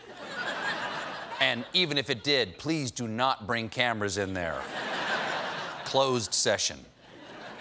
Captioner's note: laughter